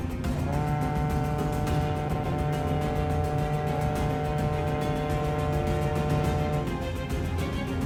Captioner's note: loud horn from ship